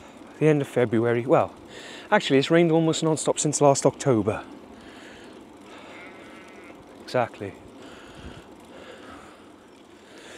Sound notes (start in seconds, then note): 5.8 sheep bleats in agreement